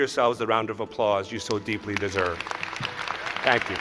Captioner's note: cheers and applause